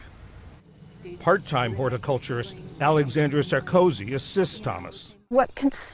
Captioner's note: voice-over